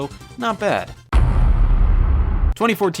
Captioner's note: heavy thud